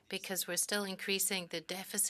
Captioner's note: speaking French